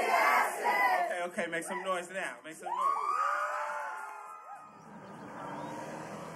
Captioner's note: audience cheers